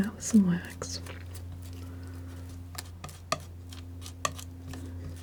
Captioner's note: scratching